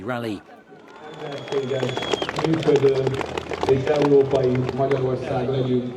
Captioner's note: crowd clapping